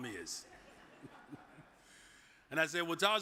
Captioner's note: audience chuckles